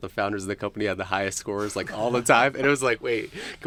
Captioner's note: chuckling